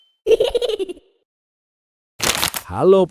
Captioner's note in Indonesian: tertawa